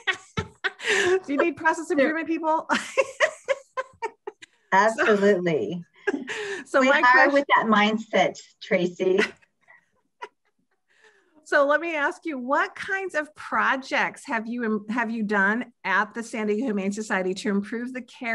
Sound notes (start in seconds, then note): 3.2 laughs